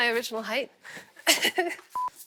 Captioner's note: laughs